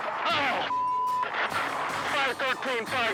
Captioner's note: beep